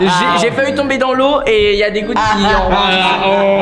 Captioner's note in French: rires